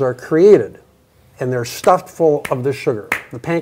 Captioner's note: hands clapping